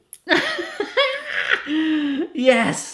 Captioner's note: laughs